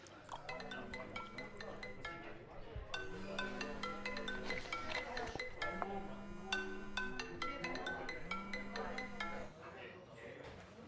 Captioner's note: ringing